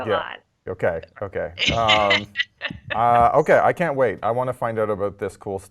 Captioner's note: laugh